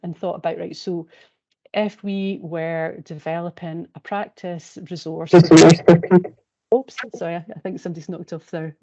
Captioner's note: interference